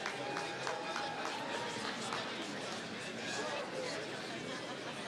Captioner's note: applause